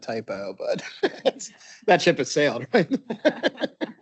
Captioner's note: laughing; laughs